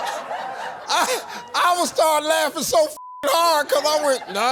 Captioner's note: beep